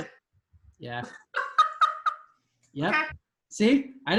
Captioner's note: student laughing